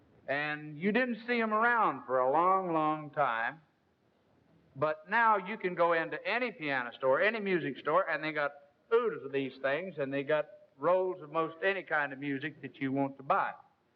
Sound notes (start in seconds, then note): none